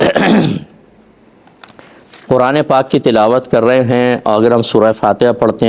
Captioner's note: clears throat